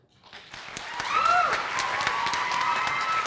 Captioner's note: applause